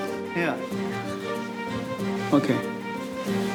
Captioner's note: whispering